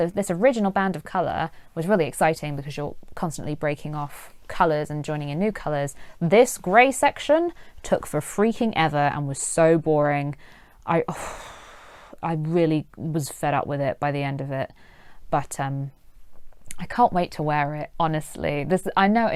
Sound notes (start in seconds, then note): 11.1 sighs